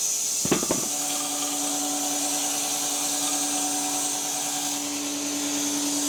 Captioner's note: wood clanging; log saw whirring